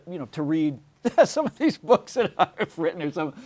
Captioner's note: laughs